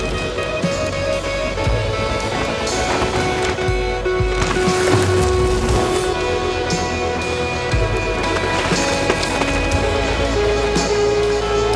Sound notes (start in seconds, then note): 0.1 dramatic music; 4.8 bike whooshing; 8.8 dramatic music